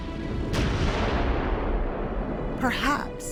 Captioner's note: explosion roars